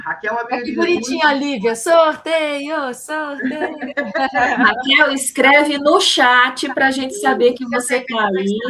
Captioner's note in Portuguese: risadas